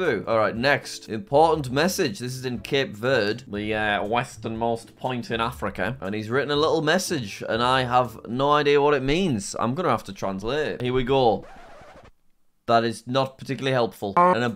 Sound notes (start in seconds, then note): 11.3 record scratches